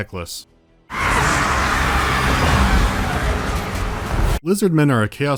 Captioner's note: sounds of savage massacre